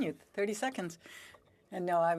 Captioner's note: speaking French